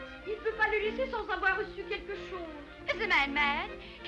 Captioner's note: seamstress speaking in foreign language